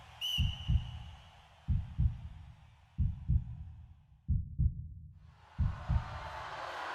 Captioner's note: whistle; faint cheering noises; heartbeat; booing crowd